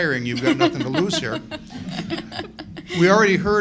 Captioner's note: laughing